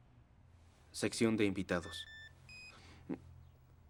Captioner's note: beeping